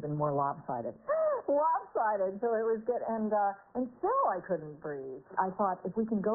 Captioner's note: laughing